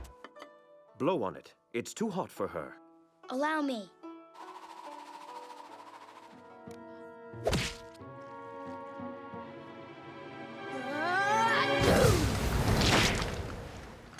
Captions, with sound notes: Blow on it, it's too hot for her. Allow me. [sneezes]